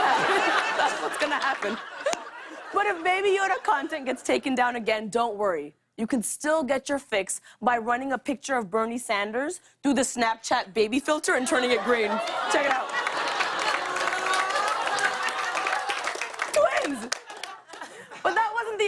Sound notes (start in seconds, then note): 13.3 audience aws; 14.0 applause